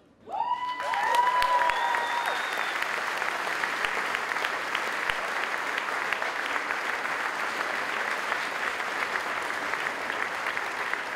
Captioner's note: applause